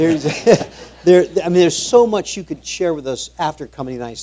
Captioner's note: laughter